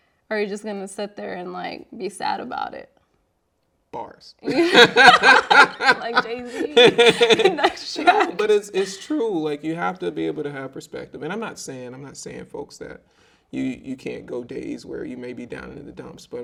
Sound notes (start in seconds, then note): 4.4 both laughing; 4.4 laughing